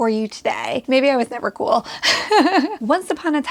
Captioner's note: laughs